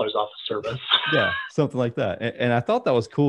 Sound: laughing

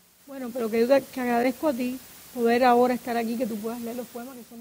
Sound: speaking in Spanish

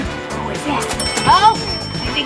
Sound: cash register dinging

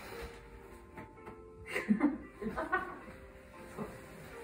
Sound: laughter

